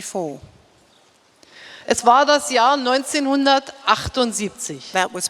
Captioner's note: speaking in German